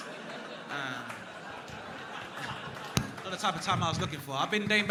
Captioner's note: crowd laughing